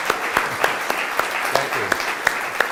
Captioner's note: audience applauds